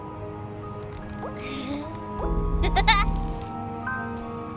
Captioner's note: electric giggles